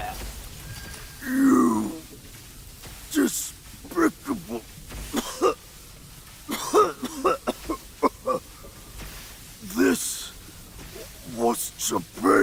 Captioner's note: muriendo